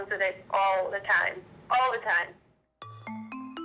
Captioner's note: woman speaks